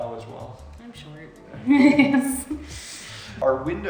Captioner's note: laughs